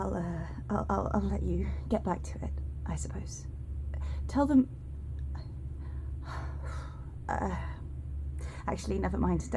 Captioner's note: bella sighs